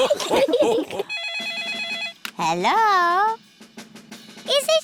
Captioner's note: all laugh; phone rings